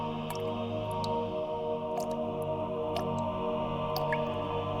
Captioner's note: quiet music; water dripping